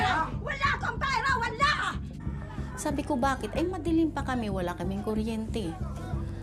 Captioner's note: speaks in foreign language